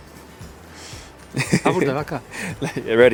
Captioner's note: bright upbeat music; chuckles